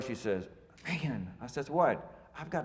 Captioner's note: speaking foreign language